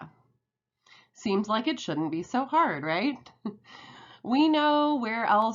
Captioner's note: chuckles